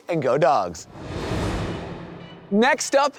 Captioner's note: screen swooshing